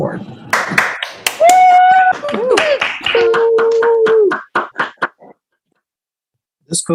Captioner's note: applause